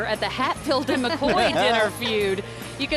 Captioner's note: laughing